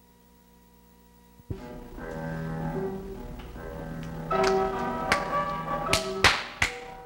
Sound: clapping; dark piano music

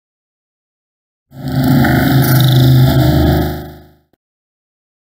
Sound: sound of haunted

